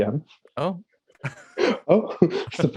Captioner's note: laughing